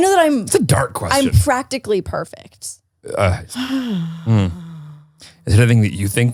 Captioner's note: sighs